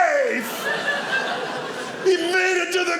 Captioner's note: audience laughing